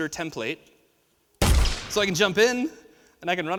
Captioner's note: gun fires